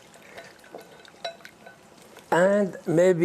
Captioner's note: glass clinking softly